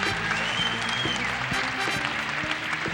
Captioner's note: audience cheering; upbeat music